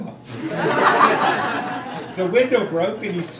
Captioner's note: crowd laughing